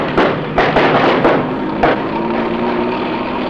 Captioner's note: banging